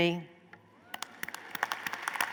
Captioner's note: applause